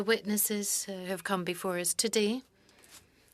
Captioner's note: speaking French